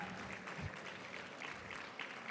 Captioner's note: applause